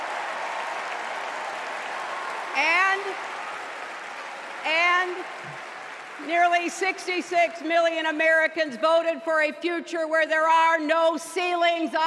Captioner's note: cheers and applause